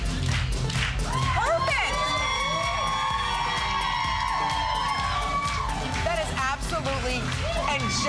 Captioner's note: applause